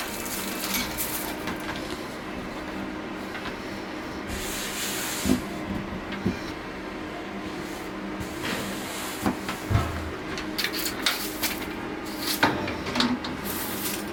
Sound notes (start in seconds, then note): 4.3 hands sliding; 8.2 hands sliding; 11.0 props shuffling